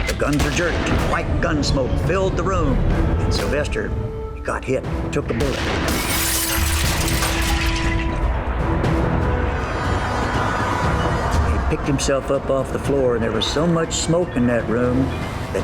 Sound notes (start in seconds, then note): 5.4 loud explosive crashing; 5.7 dramatic music